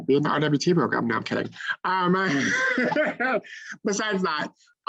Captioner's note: laughs